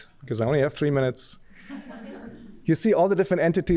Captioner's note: laughter